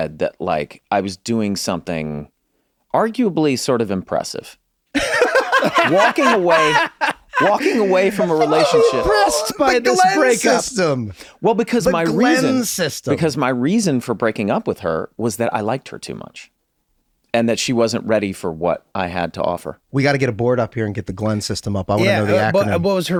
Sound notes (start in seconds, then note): 4.9 group laughs